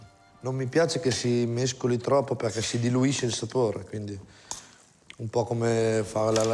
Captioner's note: speaks in foreign language